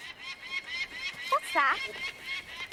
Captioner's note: bird screeching